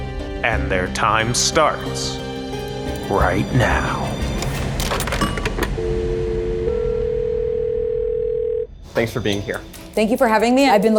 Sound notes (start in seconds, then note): 6.7 phone ringing